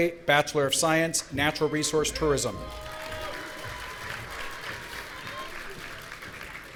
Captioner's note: audience applauding